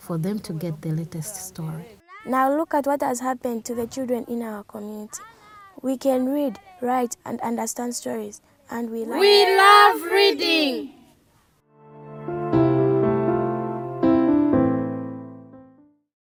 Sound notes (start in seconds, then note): 9.0 everyone shouts; 11.7 piano playing